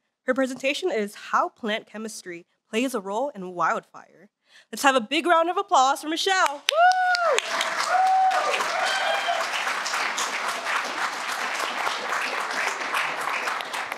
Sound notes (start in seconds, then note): 7.2 cheers; 8.2 applause